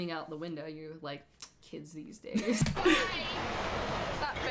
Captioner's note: lip smack; cracks up